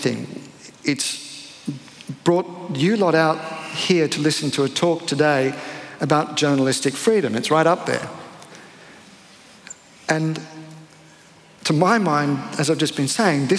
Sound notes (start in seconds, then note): none